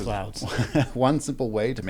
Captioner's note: laughs